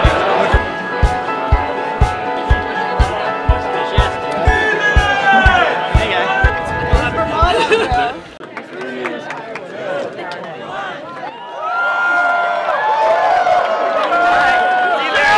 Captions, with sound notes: Three minutes! - Hey, guy. (applause) - [Crowd] Three, two, one. (cheering)